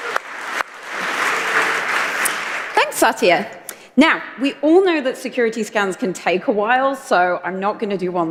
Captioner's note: applause